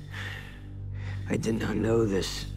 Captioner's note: sighs